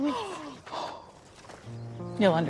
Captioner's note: gasps